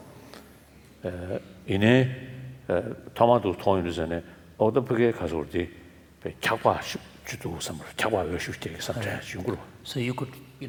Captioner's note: foreign Language